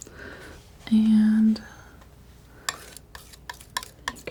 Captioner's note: scratching